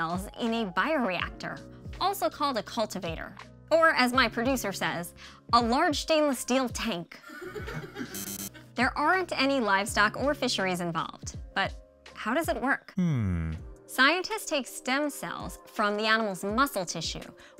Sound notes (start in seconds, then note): 7.4 producers laughing; 8.1 x buzzes